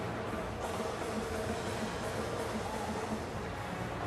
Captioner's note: none